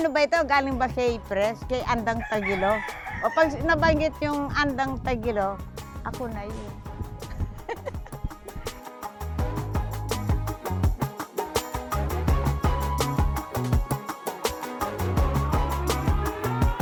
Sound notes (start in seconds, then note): 7.3 laughs